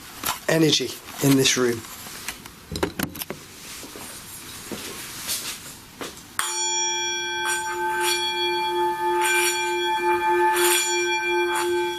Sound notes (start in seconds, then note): 6.4 bowl rings